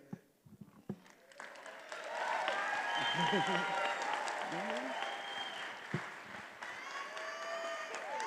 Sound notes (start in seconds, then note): 1.0 attendees applauding and cheering